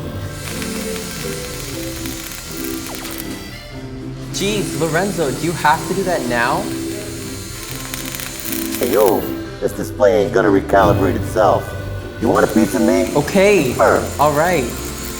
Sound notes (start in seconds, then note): 0.4 laser crackling